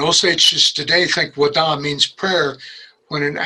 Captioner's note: speaks in Osage